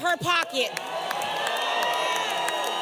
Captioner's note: applause